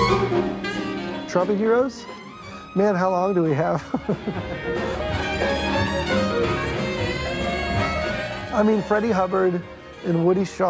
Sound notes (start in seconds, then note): 3.7 chuckles